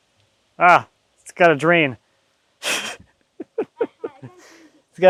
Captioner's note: laughing